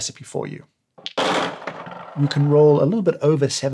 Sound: dice rolling

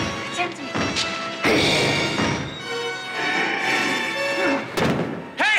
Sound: Donald growling

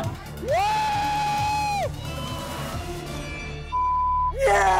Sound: screams; beep

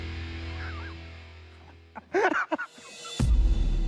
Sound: laughs

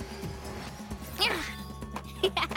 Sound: soft grunt; Sema chuckles

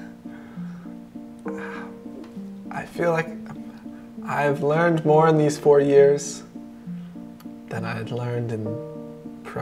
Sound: yawn

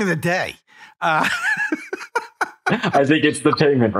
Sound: laughing

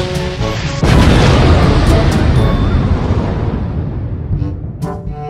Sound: explosion

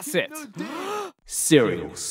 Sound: inhales

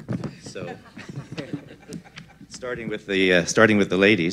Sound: laughter

